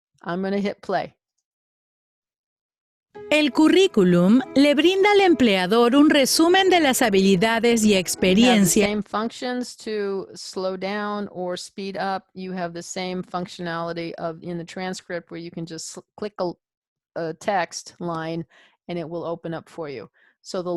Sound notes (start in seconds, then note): 3.4 spanish